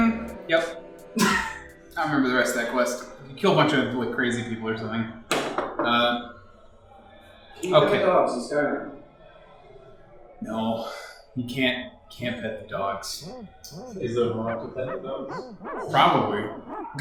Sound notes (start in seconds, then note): 10.2 sighs; 14.4 barking noises